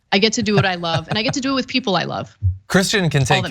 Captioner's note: laugh